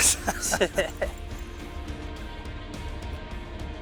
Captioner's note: men laughing